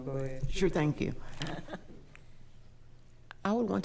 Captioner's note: chuckles